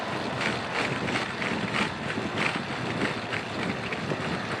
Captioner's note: hard acceleration